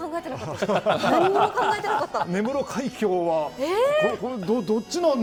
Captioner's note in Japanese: 笑い